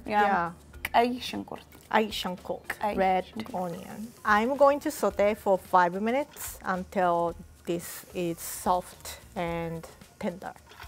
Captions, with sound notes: - We do have that. - (speaking Amharic) - (Amharic). Red onion. I'm going to saute for five minutes until this is soft and tender.